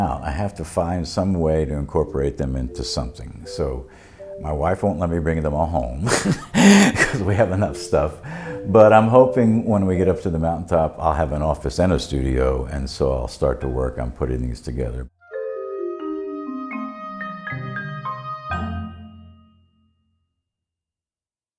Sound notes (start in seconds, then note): 6.0 laughs